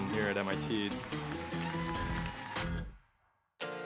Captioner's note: applause